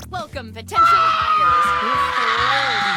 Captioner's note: screaming; screaming continues